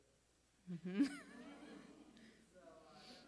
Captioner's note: laughter